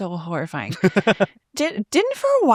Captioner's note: laughs